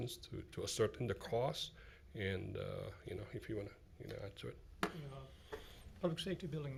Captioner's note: none